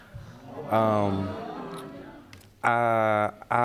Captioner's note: audience murmuring